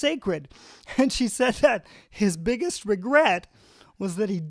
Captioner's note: chuckling